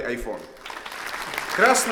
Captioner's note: applause